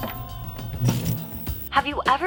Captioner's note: static zapping